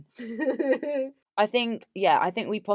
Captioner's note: laughs